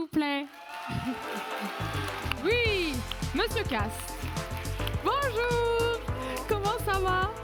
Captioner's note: laughs